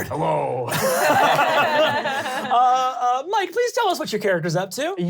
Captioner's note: laughing